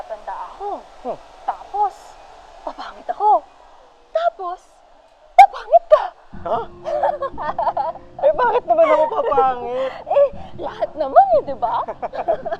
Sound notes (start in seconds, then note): 6.4 laughs